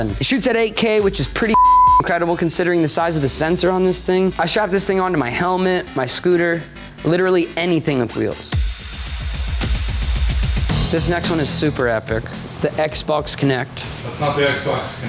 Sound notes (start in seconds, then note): 1.5 beep; 8.8 upbeat music